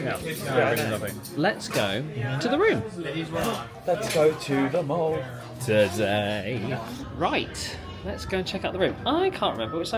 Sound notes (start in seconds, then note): 3.3 sing-song